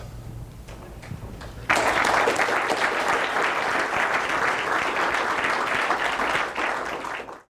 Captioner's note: audience applause